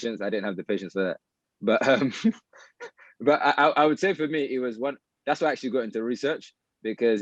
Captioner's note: laughter